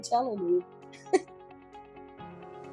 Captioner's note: laughs; upbeat music